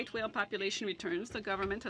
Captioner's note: speaking French